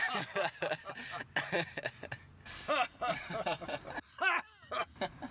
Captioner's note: laughter